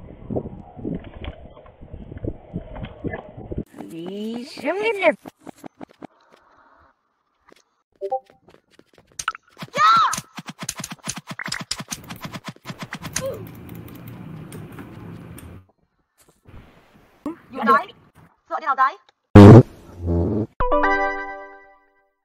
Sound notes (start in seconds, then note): 0.0 wind sounds; 5.4 reversed building noises; 8.0 discord ping sound; 9.5 fighting noises; 9.5 more fighting noises